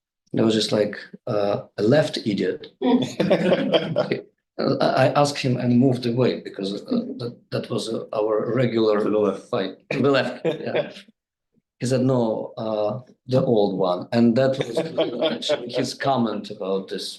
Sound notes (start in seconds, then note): 3.0 group laughing